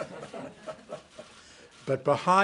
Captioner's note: laughter